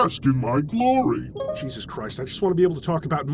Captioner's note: Steam notification